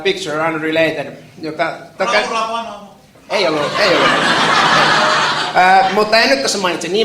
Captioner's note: laughter